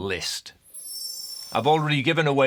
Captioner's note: screen twinkling